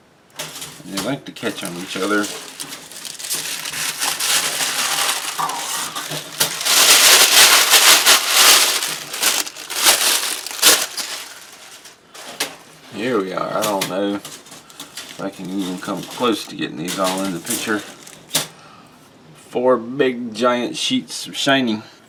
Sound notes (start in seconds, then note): 7.0 paper crinkleing